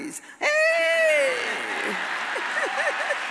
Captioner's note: wails; audience cheers